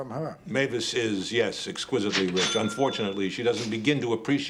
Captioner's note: cash Register Dings